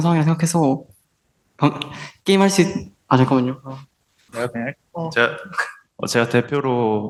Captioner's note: laughing